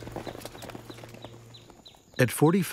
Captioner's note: horse galloping